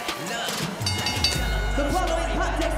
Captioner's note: bell rings